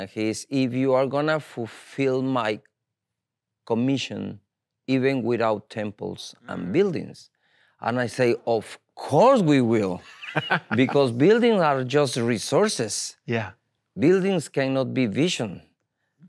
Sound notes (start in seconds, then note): 10.0 laughs